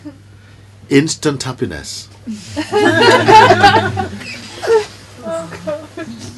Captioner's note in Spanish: risas